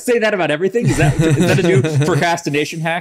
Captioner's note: laughs